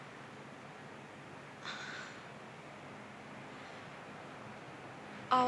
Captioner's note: sighs